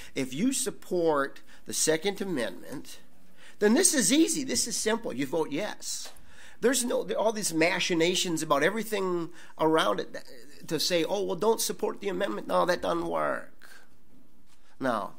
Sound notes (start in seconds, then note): none